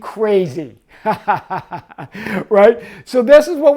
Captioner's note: laughs